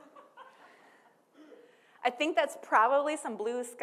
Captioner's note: people laughing